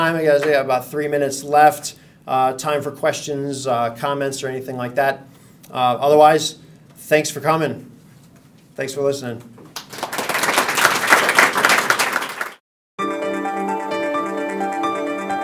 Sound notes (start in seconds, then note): 9.7 audience applauding; 13.0 upbeat music